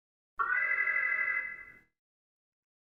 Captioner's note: alarm